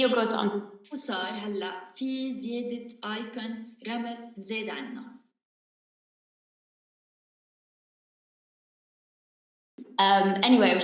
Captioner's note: speaking in arabic